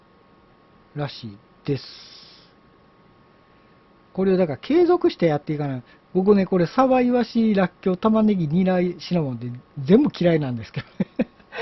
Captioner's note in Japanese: 笑い